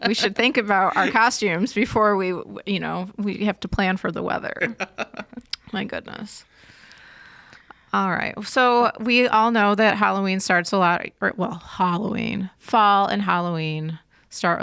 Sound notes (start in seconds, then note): 4.6 laughs